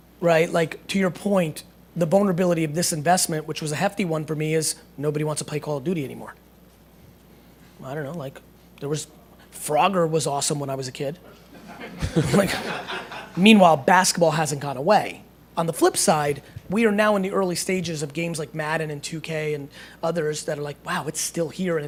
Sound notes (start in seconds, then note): 11.5 laughter